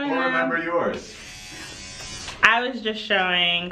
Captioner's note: toothbrush vibrating